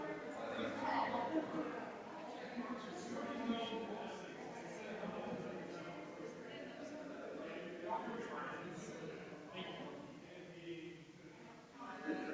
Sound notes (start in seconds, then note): 4.8 people chattering distantly continues